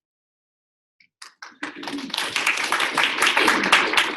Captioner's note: applause